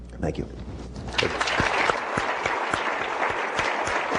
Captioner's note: applause